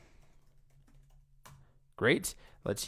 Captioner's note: keyboard typing